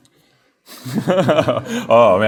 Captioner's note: laughs